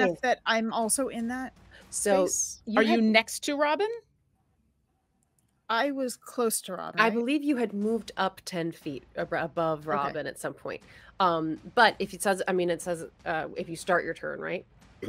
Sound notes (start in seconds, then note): none